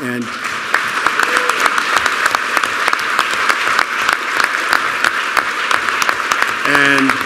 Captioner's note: applause